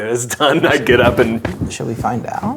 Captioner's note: laughing